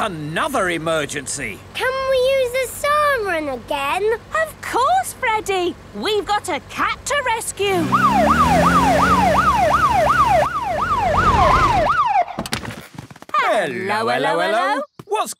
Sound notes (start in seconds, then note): 7.8 siren